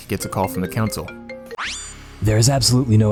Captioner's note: phone rings